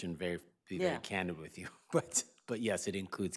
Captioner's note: chuckles